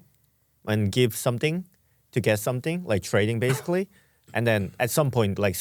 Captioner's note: coughs